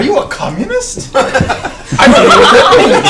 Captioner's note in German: Gelächter